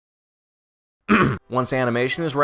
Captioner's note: clears throat